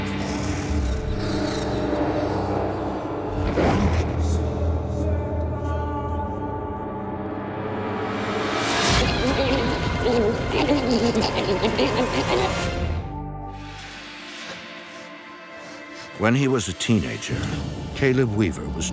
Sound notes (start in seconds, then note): 3.2 growling